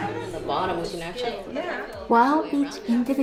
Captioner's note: women chattering